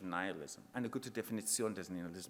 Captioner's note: speaking in foreign language